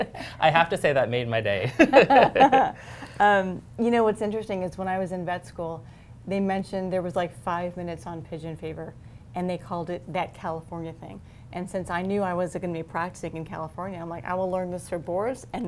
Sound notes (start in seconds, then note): 1.7 laughter